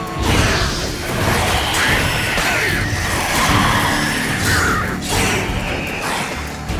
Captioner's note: flames whoosh; drowners screeching